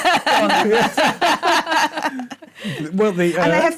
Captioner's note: laughter